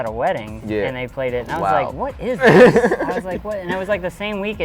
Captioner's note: laughs